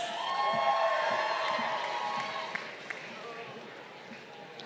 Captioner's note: crowd cheering